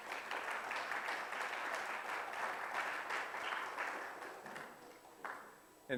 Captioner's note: audience applause